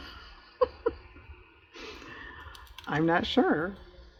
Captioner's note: laughs